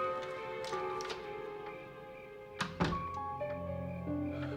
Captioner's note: door closing; soft music